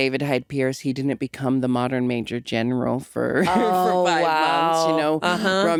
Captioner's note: chuckles